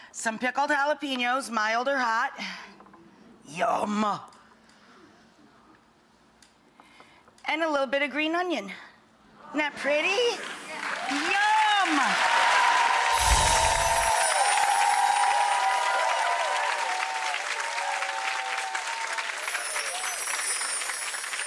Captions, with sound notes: some pickled jalapenos, mild or hot, yum and a little bit of green onion. Isn't that pretty? (audience applauds) Yum! (bells chime)